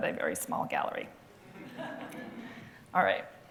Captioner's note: laughter